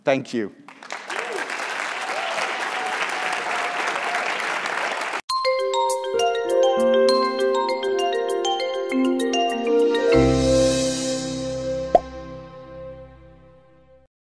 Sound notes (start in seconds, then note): 0.6 applause; 5.4 uplifting jingle